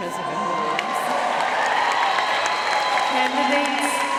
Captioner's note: audience cheering and applauding